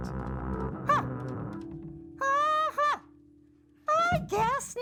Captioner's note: character squeaks